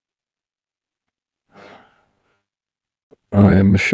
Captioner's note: sighs